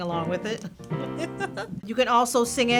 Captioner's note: laughter